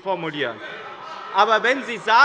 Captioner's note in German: Zurufe von der SPD